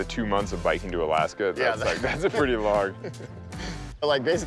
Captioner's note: laughing